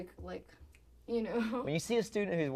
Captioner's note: snapping